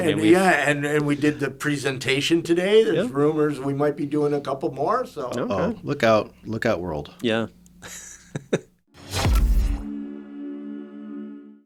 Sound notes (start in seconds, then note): 7.8 laughs; 9.3 upbeat music